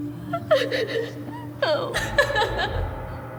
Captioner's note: crying